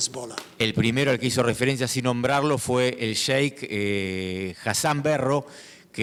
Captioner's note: speaking in foreign language